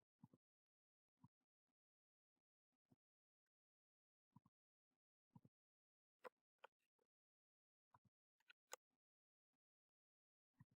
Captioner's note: silence